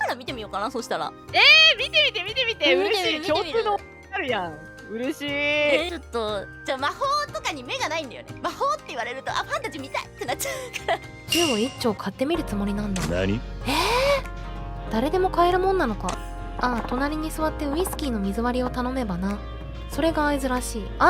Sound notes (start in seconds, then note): 10.2 laughs